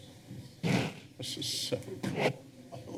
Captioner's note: mic rustling